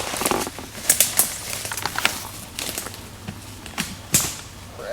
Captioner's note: twigs cracking